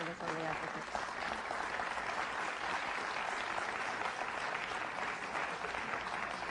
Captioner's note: applause